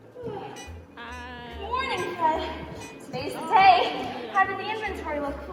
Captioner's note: yawning